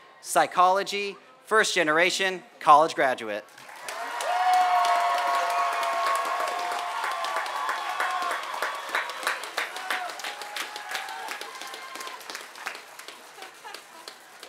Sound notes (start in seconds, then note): 3.5 applause